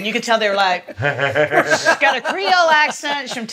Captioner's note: laughs